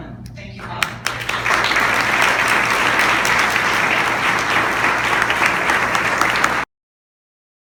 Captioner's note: audience claps